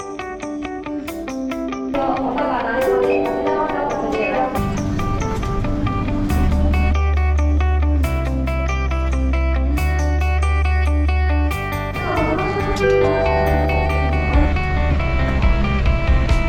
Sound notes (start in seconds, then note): 6.1 airplanes